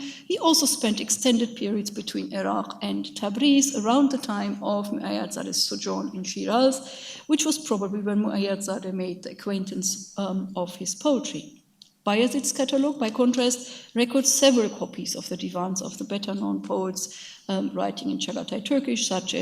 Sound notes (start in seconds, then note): 4.9 speaks in a foreign language